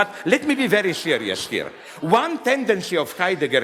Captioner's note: audience laughs